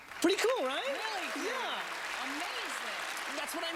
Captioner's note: audience clapping